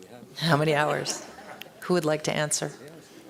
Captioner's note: laughter